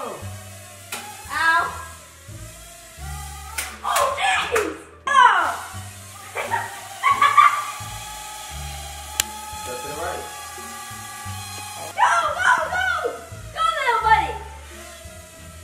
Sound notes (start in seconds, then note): 6.2 laughs